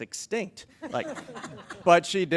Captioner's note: attendees chuckle